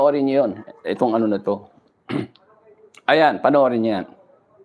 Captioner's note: clears throat